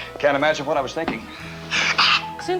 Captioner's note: Joe sneezes